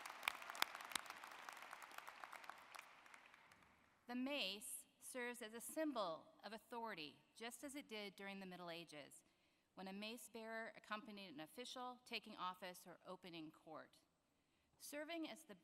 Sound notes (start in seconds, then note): 0.0 applause